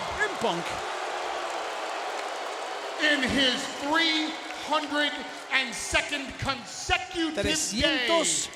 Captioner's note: applause